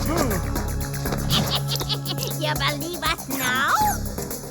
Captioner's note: screaming